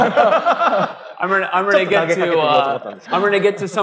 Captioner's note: speaking japanese